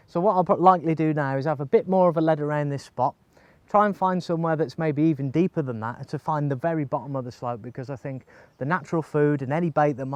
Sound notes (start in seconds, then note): none